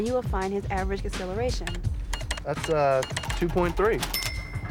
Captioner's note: none